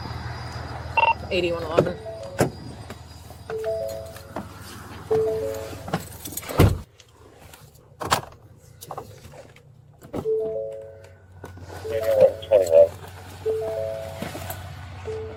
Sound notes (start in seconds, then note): 11.8 radio chatter